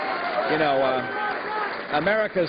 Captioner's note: applause